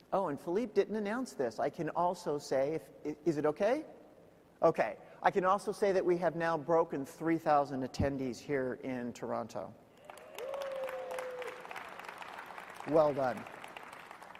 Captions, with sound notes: Oh and Philip didn't announce this. I can also say if, is it okay? Okay, I can also say that we have now broken 3000 attendees here in Toronto. (crowd cheering) Well done.